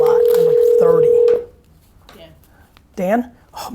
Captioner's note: phone ringing